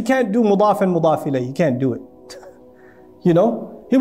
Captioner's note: Arabic